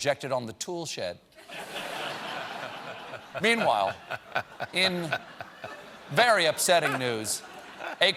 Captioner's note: laughter